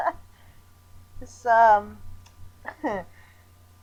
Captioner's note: chuckle